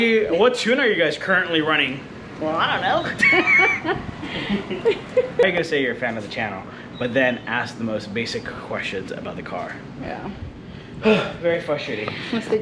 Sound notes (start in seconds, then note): 3.1 chuckling; 4.8 giggling